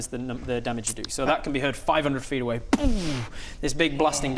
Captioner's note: boom